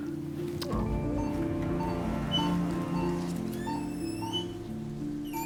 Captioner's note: machine beeping